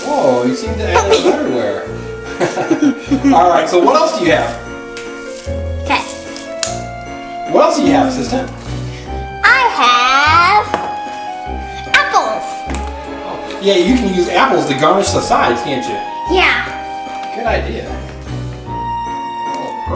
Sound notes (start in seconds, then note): 2.2 Mr. Engineer and Assistant chuckle